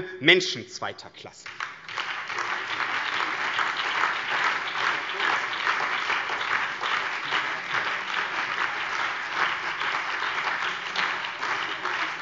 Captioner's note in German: Beifall BÜNDNIS 90/DIE GRÜNEN, CDU, SPD und vereinzelt DIE LINKE